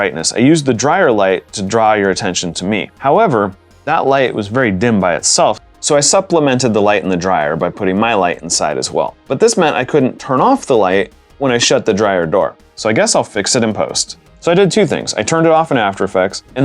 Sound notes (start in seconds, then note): none